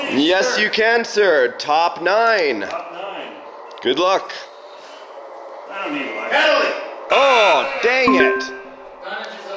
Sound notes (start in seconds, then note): 7.4 buzzer; 8.0 beep